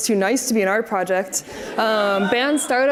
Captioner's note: audience laughs